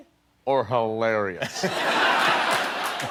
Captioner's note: laughter